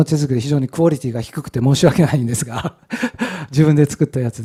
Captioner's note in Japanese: 笑い